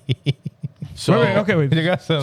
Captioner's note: laughing